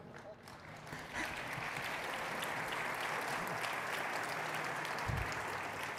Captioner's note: audience applauding